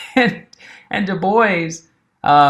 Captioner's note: chuckling